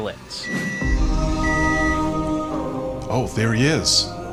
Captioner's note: intense music; microwave beeping